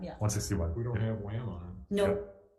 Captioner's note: member speaks faintly